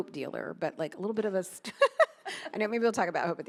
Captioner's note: laughs